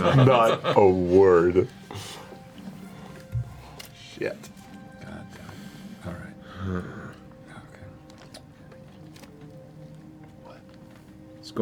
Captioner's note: nervous laughing